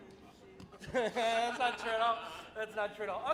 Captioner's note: laughing